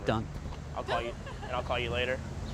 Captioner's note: woman laughs